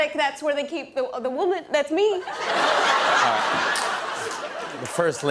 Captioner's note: laughter